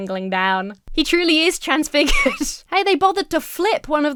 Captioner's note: Emma laughs